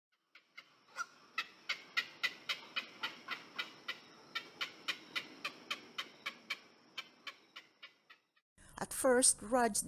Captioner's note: sounds of herons in the distance